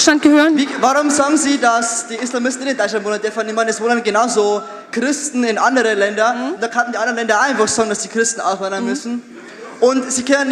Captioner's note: too fast, too much Bayrisch dialect